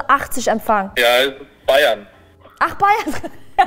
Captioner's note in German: rauschend